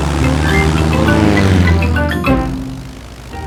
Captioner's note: plane engine revving